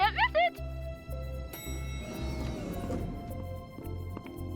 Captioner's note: elevator dinging